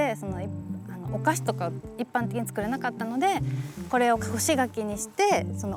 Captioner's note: continues speaking Japanese